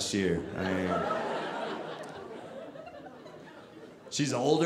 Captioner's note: audience laughing